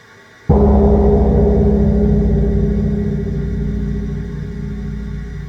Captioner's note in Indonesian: Suara Gong